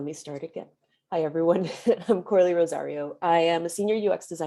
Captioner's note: chuckles